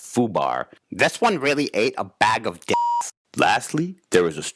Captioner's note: beep